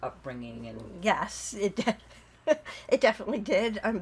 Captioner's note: laughing